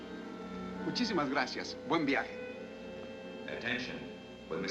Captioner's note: speaking spanish